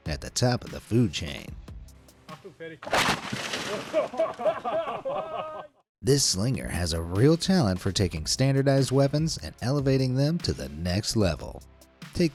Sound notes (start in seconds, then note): 2.9 slingshot shoots; 3.6 people laughing